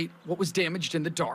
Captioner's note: nats: birds